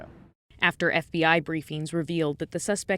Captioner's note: voice-over